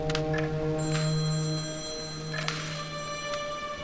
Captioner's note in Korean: 전화 벨소리 - 계속